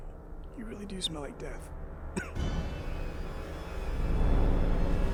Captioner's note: coughs